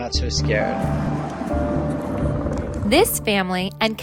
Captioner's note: helicopter noises